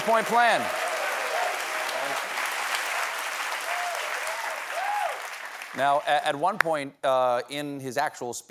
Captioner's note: cheers and applause